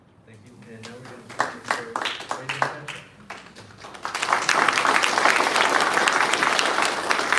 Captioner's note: applause